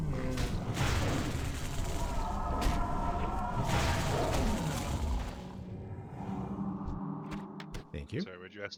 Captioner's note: explosion